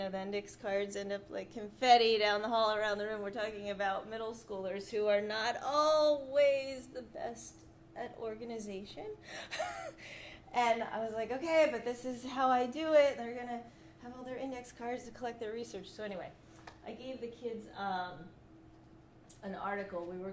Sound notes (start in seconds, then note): 9.5 laughs